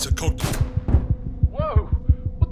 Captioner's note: gunshot